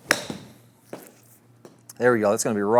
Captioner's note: golf club strikes golf ball